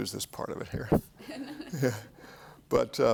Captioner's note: laughs